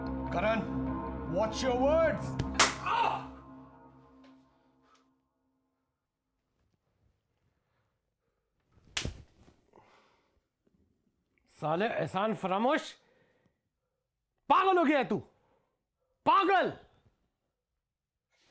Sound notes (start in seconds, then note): 2.4 slap; 8.9 slap back